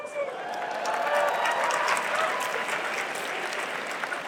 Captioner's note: cheering